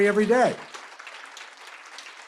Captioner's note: applause